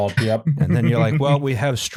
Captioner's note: chuckles